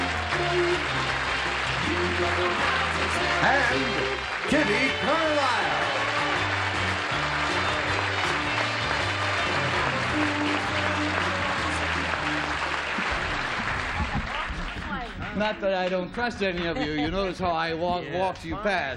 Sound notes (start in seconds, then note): 2.7 applause; 8.6 applause; 11.6 theme music